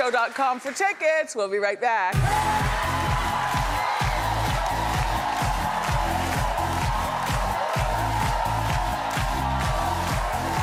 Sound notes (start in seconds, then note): 2.9 audience cheering; 2.9 upbeat music